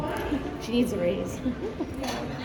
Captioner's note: laughs